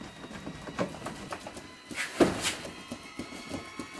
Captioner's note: boxes rattling; dramatic music escalates